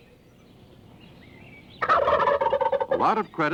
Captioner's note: gobbling